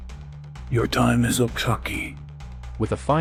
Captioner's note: in a voice that reverberates with the demonic power